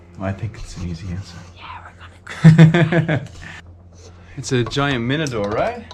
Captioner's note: whispering; laughs